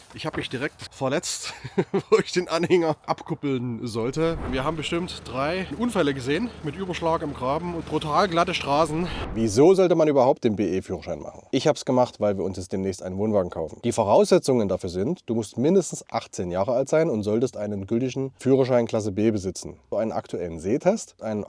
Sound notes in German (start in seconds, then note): 4.0 Swoosh; 8.6 Swoosh